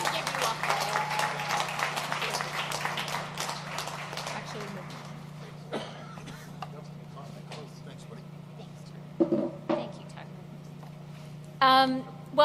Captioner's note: applause